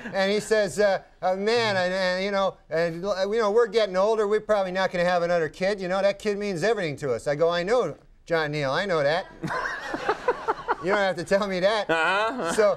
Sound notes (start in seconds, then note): 9.4 Conan laughing